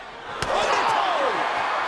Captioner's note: crowd cheers